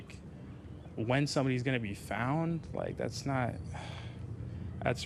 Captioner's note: sighs